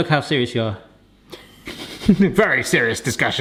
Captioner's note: laughing